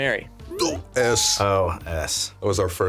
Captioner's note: grunting